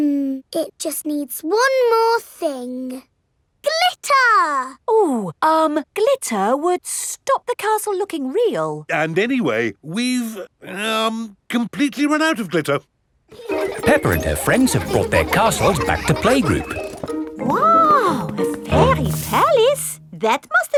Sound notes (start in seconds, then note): 13.3 children laughing